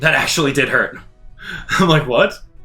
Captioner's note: chuckles